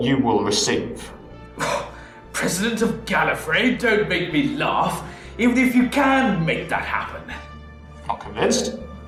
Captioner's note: scoffs